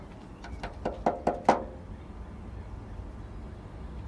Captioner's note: loud tapping